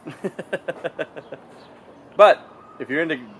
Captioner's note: chuckling